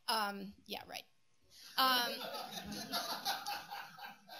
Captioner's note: laughter